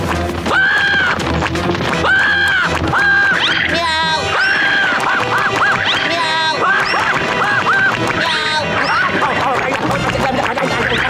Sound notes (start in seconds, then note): 0.1 screaming; 2.0 meowing, screaming; 9.1 screaming